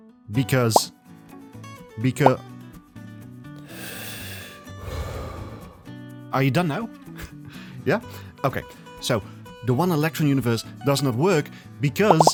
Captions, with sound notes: Because- Becau- *deep sigh* Are you done now? Yeah? Okay! So, the one-electron Universe does not work because-